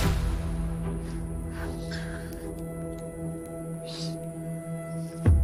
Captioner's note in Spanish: Sollozos